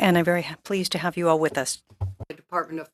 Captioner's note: speaking French